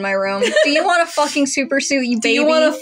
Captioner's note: laugh